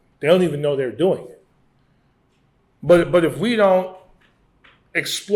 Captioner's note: none